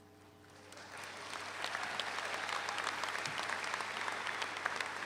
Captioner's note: audience applauds